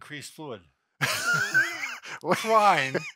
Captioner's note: laughter